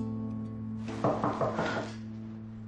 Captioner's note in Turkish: Kapı sesi